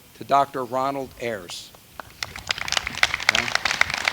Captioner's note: applause